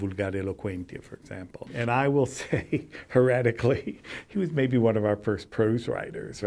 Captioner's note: laughs